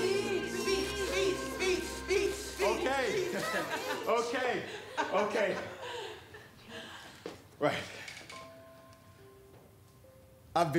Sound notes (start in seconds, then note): 3.0 attendee laughing; 3.0 laughs; 8.2 gentle music